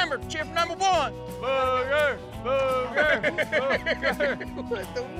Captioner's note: cheers, laughs